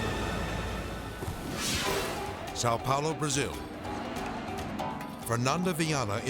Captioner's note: suspenseful music continues; graphic swishes